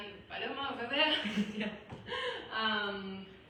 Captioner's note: laugh